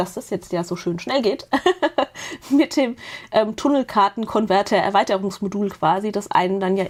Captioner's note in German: gelächter